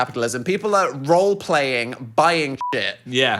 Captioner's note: beep